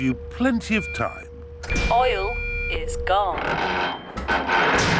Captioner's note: creaking